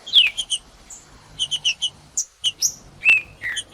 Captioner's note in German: trinca ferro cantando; trinca ferro cantando